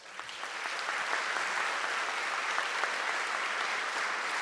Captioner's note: audience clapping